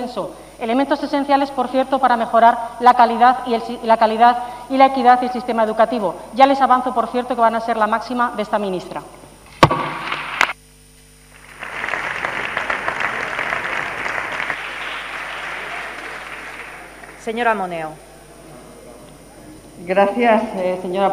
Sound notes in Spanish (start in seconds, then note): 11.2 Aplausos